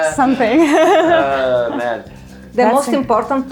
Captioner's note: laughing